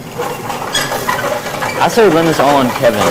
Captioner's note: squeaking